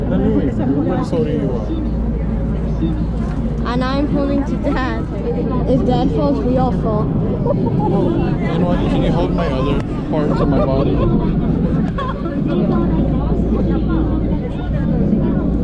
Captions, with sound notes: everybody is holding you up and I'm holding on to dad, if dad falls we all fall [laughing] can you hold my other part of my body